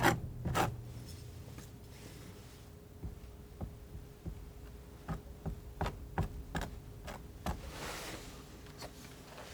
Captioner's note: scratching